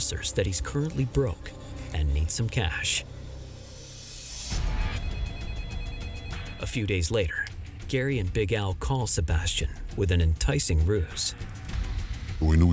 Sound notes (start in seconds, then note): 4.7 suspenseful music; 5.3 phone ringing